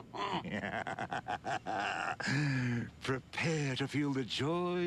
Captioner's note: laughs